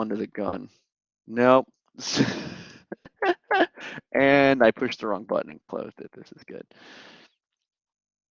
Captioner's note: laughter